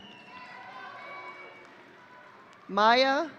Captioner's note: audience cheering